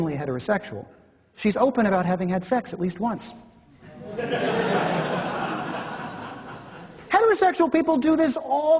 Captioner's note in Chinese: 比了比自己，笑